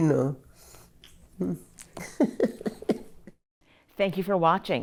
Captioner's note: laughs